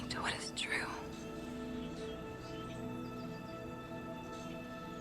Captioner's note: birds chirping